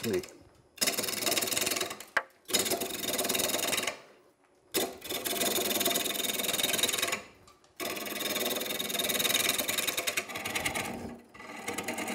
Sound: tools buzzing

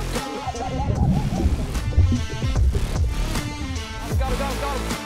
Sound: water burbling

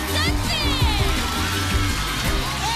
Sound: cheers and applause

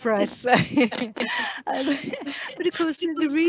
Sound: laughing

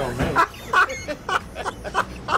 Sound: laughs

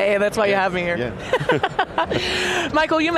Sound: laughing

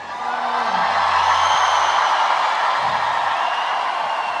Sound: audience cheering

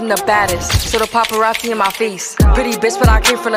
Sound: grah

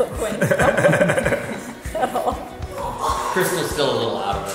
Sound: laughs

